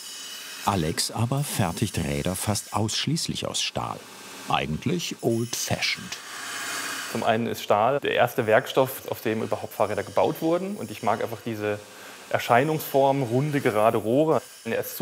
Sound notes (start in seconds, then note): 6.0 whirring